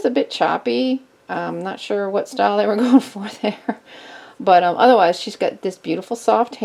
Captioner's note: chuckles